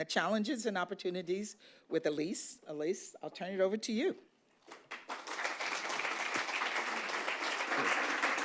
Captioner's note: applause